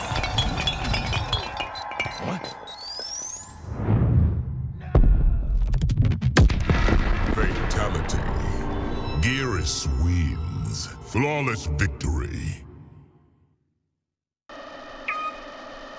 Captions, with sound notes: *Bombs Jangling* *Bombs Beeping then Pulsing* *Boom* "Fatality" "Geras Wins" "Flawless Victory"